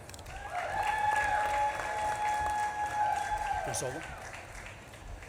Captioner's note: audience claps and cheers